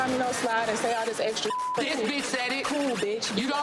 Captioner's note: beep